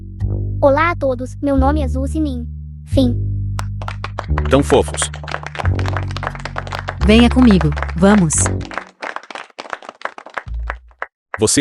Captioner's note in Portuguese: aplausos